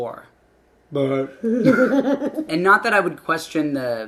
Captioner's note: laughing